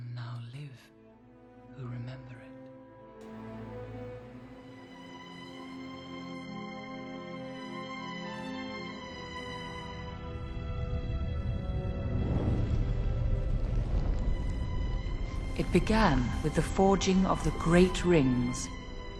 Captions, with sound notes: - For none now live who remember it. [suspenseful music] [fire crackling] It began with the forging of the great rings.